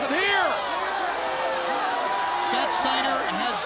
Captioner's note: crowd cheering